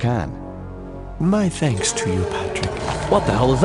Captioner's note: distant howl